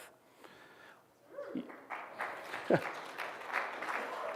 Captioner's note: applause